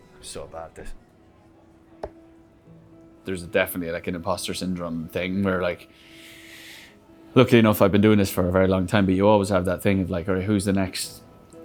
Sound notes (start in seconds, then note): 2.0 darts hitting